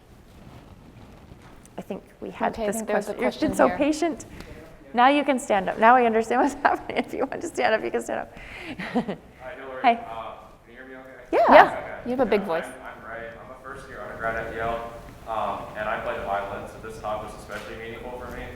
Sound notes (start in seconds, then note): 8.6 laughs